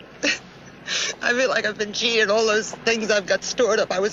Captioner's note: Sylvia laughs